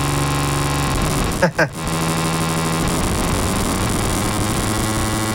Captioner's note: laughter